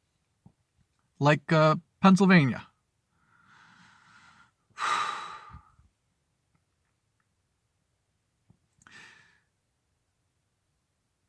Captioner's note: sigh